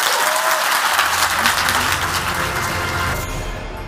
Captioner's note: applause